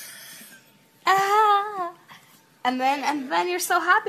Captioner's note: woman moans